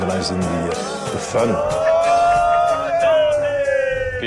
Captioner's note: loud cheering